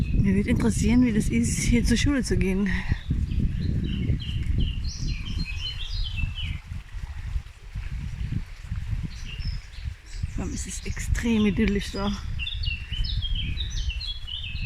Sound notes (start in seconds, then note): 5.3 stream rushing & birdsong